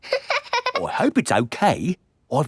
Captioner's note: laughing